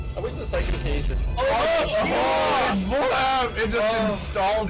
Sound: they exclaim loudly

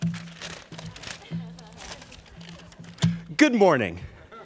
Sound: paper crinkling

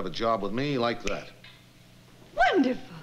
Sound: snaps fingers

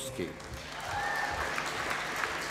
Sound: applause

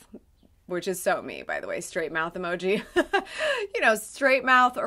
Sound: laughs

